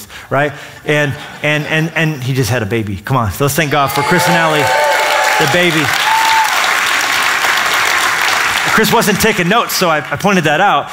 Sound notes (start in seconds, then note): 0.3 laughter; 5.9 applause